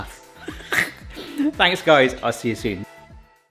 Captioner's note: laughs